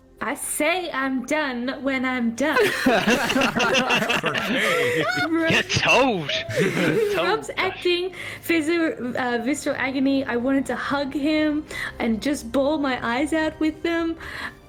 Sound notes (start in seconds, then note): 2.6 sassy laughter